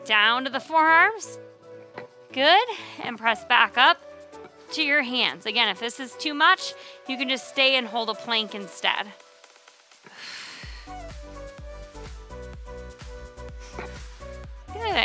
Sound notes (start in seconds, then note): 10.0 exhales